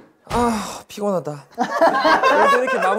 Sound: hahahaha

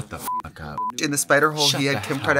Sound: beep

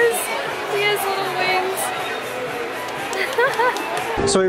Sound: laughter

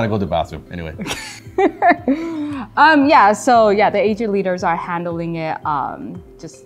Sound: laughter

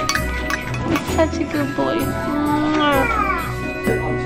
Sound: kisses

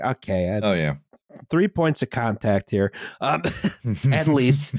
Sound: chuckles; laughs

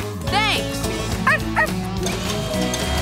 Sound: barking

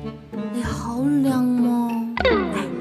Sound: speaking Cantonese

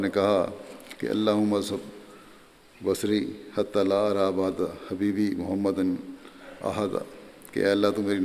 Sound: Arabic

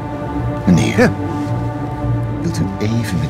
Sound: gasps

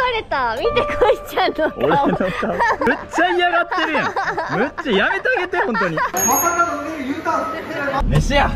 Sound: laughs

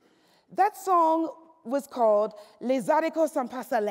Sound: speaks French

